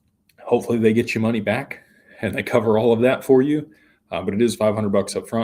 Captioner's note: none